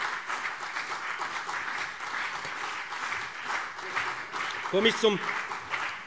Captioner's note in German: Beifall BÜNDNIS 90/DIE GRÜNEN und vereinzelt CDU - Zurufe SPD